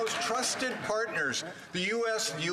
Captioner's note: applause